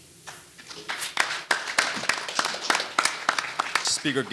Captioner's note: audience applauding